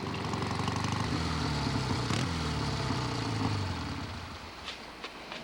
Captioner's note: motorbike rumbling